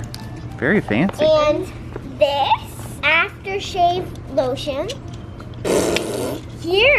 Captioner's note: blows raspberry